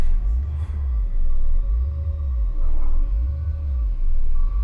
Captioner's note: ghostly voice whispering